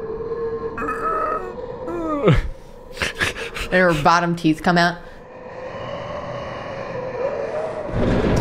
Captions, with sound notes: [growl] [snarl] And her bottom teeth come out.